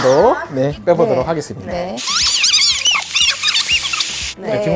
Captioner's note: fast compression